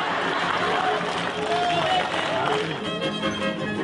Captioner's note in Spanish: Aplausos